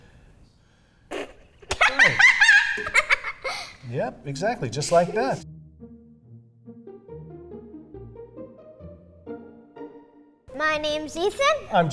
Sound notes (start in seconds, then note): 1.6 laughs